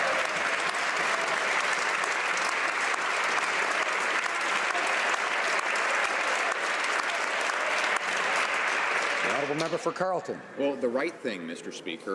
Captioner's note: some Applause